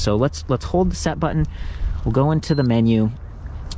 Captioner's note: bike beeps